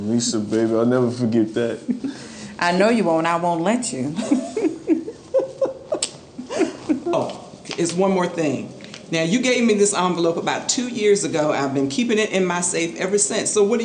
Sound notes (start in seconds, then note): 4.1 laughing